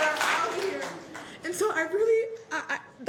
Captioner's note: applause